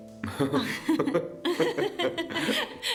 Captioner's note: laughing